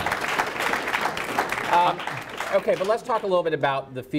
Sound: audience applauds

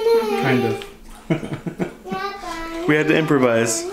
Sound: laughs

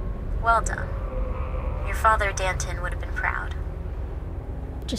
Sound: woman on phone

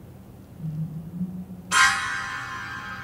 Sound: faint humming; suspenseful music

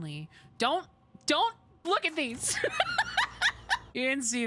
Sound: laughter

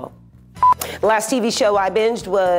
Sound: camera beeps

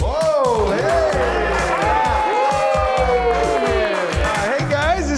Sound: cheering

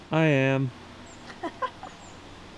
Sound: laughing

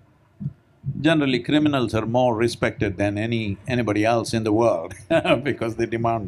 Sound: laughs

